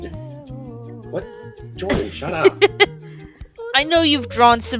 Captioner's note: laughs